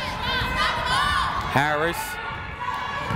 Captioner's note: yelling